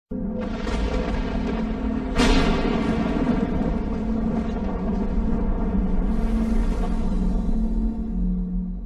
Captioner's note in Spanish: thunder and lightning